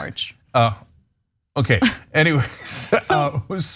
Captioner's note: laugh